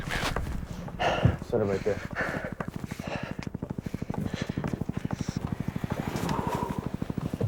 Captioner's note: helicopter whirring